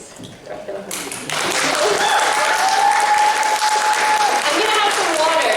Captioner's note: applause